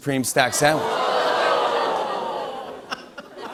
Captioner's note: ohhing; laughter